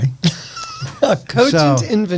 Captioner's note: laughing